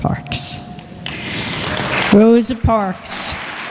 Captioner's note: applause